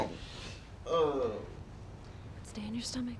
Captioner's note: groaning